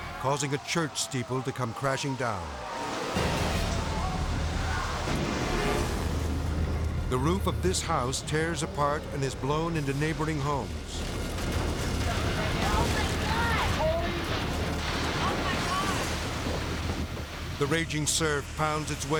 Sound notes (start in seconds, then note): 3.2 dramatic music; 16.3 roof breaking